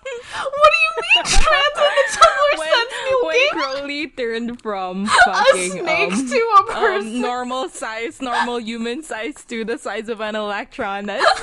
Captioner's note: laughing